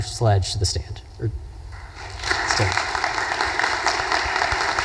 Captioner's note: audience applause